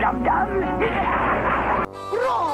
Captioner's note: evil laugh + electrozapped